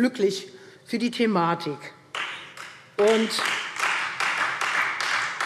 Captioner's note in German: Beifall Freie Demokraten